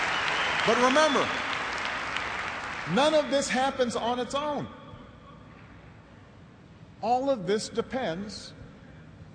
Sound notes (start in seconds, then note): 0.0 cheers and applause